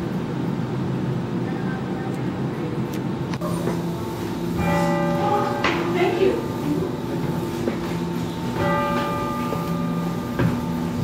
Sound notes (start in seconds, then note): 4.4 bell tower ringing; 6.4 voiceover; 8.6 bell tower ringing